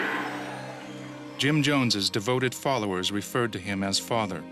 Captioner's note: voiceover